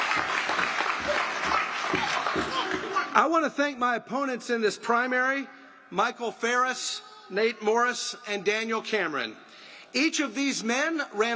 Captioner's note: applause